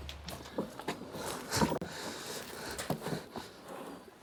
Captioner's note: heavy breathing